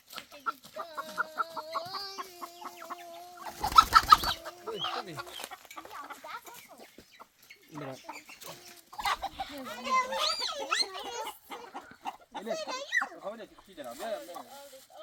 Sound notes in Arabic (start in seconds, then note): 0.8 ضحك